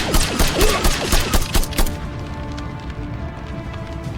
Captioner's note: guns blasting; man grunts